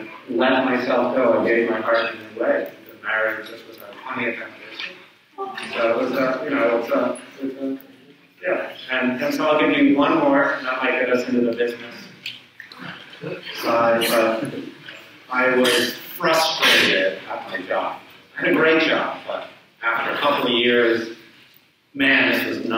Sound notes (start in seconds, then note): 6.2 audience coos